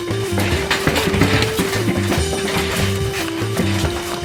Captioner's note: door rattling continues